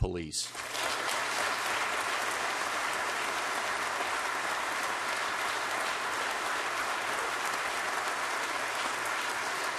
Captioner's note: applause